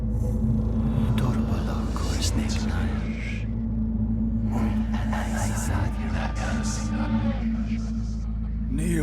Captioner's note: speaking Black Speech